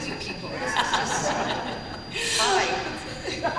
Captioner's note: laughter